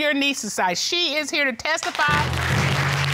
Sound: audience applauding

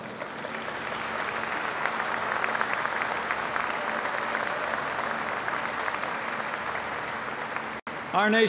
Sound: applause

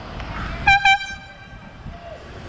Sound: airhorn

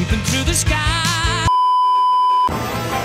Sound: beeeeeep

